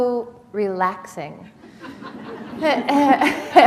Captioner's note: laughter